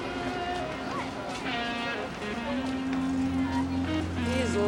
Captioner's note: pedestrians chattering